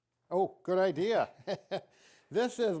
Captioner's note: laughs